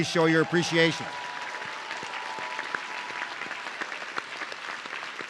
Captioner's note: audience cheering